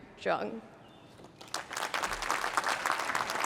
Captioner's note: applause